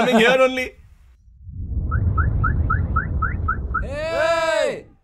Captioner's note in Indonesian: Suara mobil; Teriakan